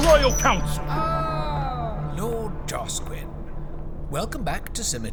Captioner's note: sound of sub gate opening